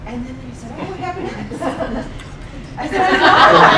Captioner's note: laughing